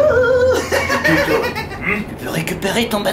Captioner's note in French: rire de clown